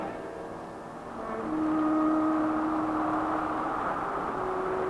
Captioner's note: wind blowing swiftly